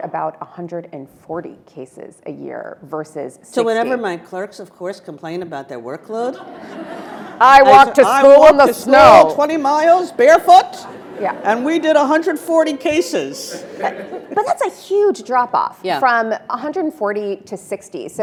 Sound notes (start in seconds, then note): 6.2 attendees laughing; 10.7 audience laughing